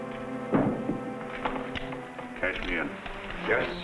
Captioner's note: gun thudding